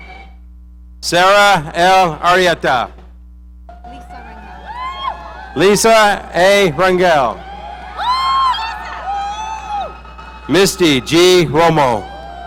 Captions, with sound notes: Sarah L. Arrieta. (audience cheering) Lisa A. Rungel. (audience cheering) Misty G. Romo.